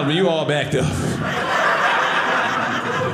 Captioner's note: audience laughing